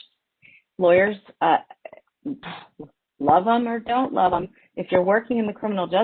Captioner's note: sighs